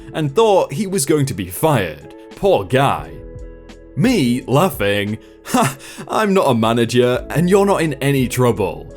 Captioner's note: laughing